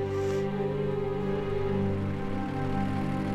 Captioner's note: sniffles